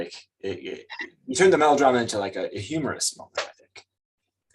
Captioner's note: chuckles